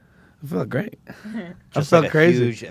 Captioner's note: laughs